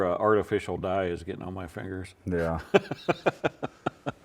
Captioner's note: laughing